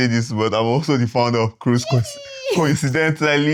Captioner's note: laughs